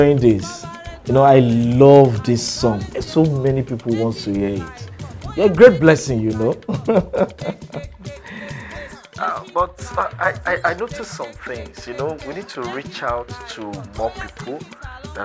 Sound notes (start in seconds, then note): 6.2 laughing